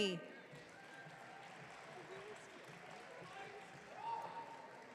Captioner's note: audience cheering